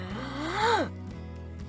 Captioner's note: inhale